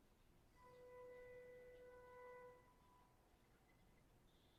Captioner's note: horn honking